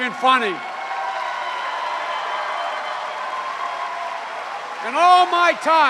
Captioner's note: cheers and applause